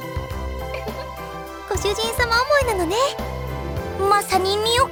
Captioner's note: giggle